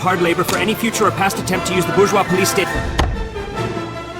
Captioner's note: gavel slams